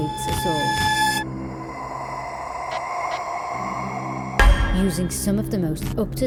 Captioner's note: haunting breathing